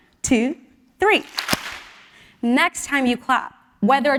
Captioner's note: applause